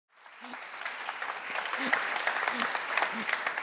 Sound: applause

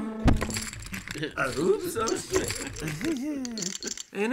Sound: knocks over chips

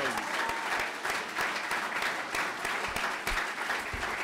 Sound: clapping

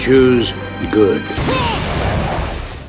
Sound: roaring

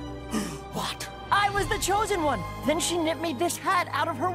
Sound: gasps

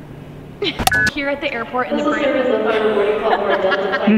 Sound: laughs; sound of intercom announcement; all laugh

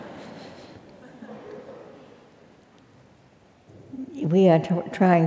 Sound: laugh

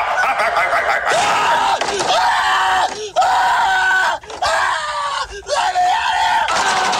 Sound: evil laugh; screams; evil chuckle; bangs on door

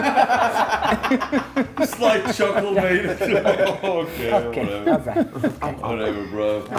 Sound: laugh

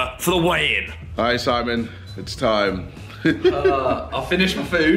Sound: laughs

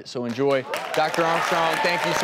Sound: audience applauds and cheers

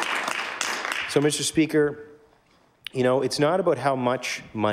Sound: applause

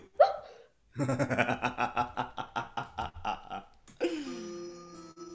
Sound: JAZZ laughs

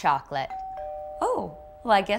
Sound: doorbell ringing

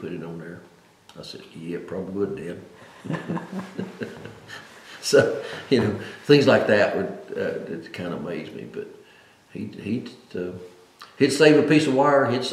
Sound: laughs

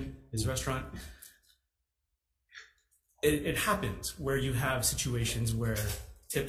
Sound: none

